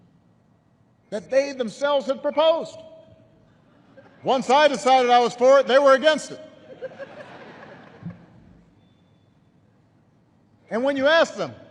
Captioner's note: laughter